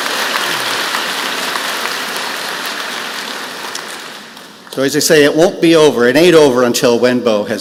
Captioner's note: applause